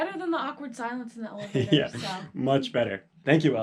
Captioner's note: laugh